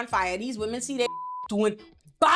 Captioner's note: beep